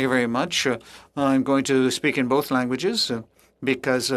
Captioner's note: speaking French